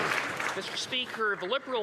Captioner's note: some Applause